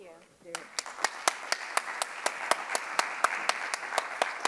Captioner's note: audience clapping